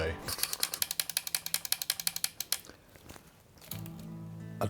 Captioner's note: camera clicking